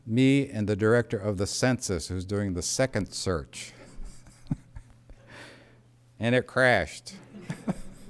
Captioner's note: laughter